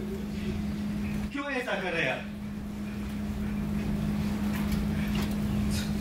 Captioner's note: speaks in foreign language